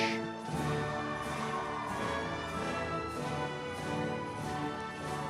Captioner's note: audience members cheering